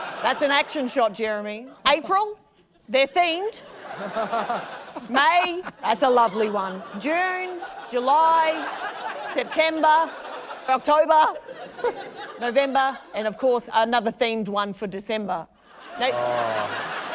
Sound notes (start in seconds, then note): 0.0 laughter; 3.8 laughter